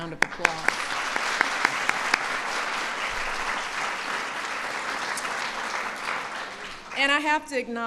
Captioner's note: applause